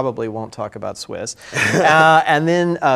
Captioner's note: laughs